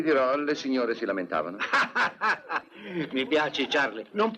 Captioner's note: laughing